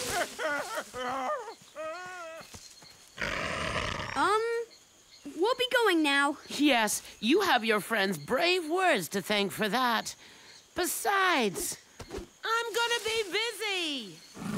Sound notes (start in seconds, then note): 3.2 snarls